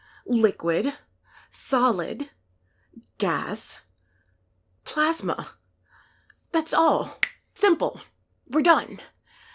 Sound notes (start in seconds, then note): 7.2 snaps fingers